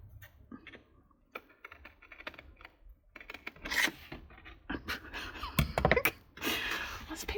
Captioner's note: laughs